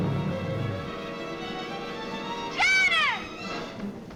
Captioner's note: beast growling